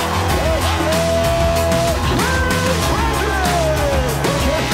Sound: announcer yelling

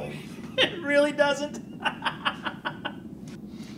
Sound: laughing

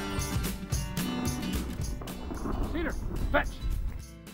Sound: gunshots

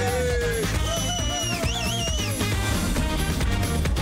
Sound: group whistling; dance hall music continues

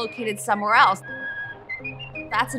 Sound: whistling

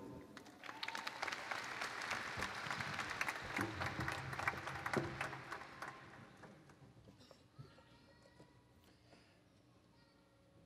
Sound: applause

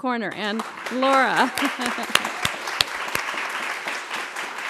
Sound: applause

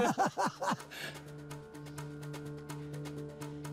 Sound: laughing; panting

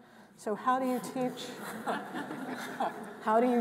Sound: all chuckling

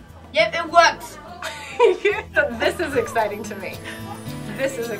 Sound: laughs

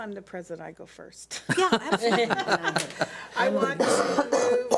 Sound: laughing

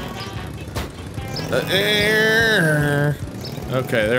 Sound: revving noises

